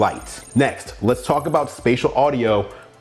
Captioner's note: electronic trilling